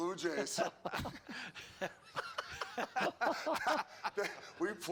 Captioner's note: laughter